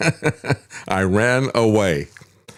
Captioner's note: laughs